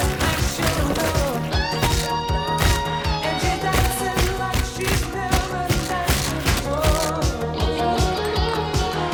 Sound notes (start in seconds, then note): 2.5 head thudding